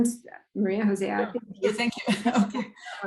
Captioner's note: laughs